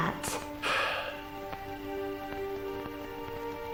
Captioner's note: Tom sighing; dramatic music